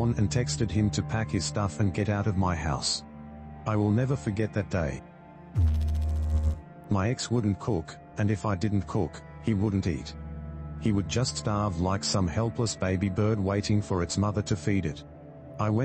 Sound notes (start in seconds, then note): 5.5 electrical noise